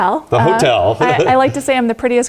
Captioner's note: laugh